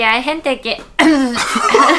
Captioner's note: cough